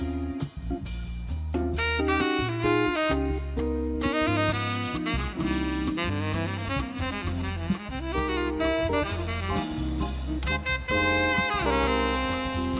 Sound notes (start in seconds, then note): none